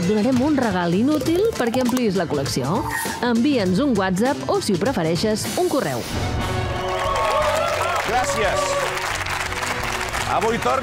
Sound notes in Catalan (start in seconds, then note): 6.7 aplaudiments